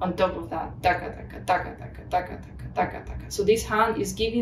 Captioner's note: makes beat noises